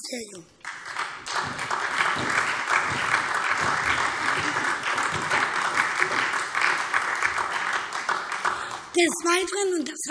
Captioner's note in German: Beifall SPD und DIE LINKE